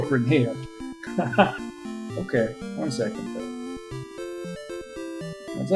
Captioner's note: chuckles